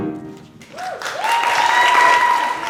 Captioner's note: applause